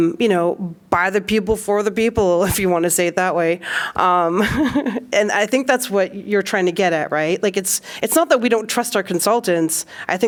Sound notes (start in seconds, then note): 4.4 laughter